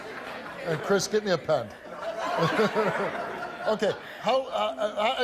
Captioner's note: laughs